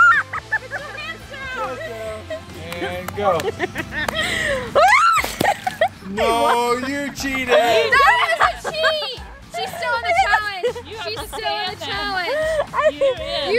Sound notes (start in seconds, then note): 0.0 laughing; 3.9 laughing; 4.9 balloon explodes